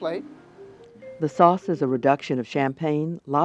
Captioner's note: voiceover